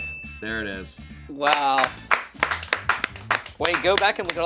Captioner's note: crew clapping